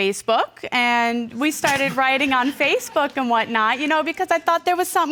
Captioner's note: laughing